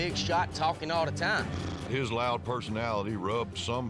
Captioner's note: blows raspberry